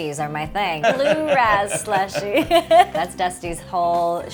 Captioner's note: both laughing